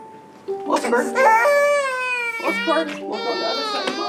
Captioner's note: cries